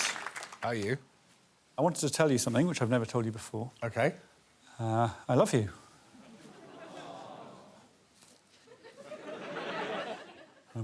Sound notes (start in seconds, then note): 6.4 audience aww-ing; 8.6 audience laughing